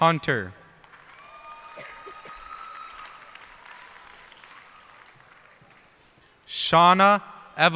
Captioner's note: cheers and applause